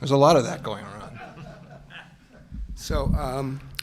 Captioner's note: laughter